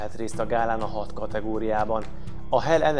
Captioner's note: Arabic